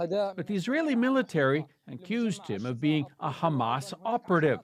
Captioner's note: speaking alternate language